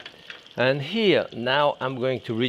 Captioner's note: eggs sizzling